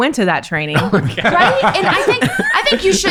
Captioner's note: laughing